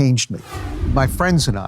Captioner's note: wind whooshing